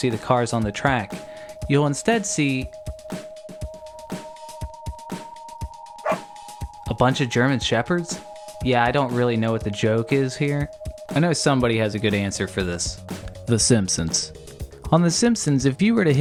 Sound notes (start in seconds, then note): 6.0 bark